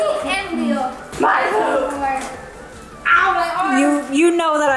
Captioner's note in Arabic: أطفال يمزحون بالضوضاء